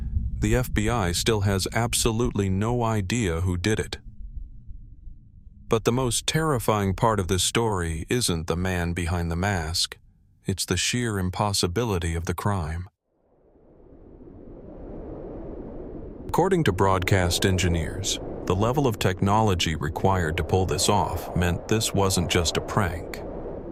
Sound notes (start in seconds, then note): 16.3 wind noise